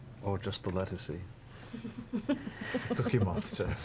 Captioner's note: laughs